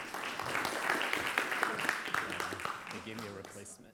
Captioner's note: audience applauds